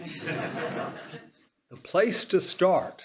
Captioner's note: laughter